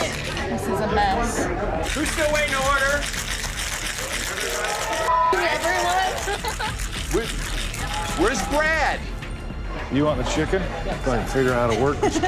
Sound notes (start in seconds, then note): 5.9 laughs